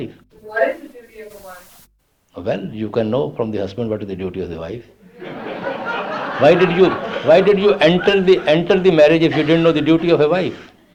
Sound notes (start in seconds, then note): 5.1 laughter